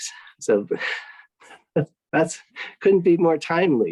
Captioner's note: laughs